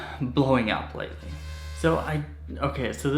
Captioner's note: buzzing